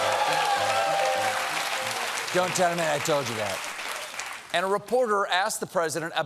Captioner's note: applause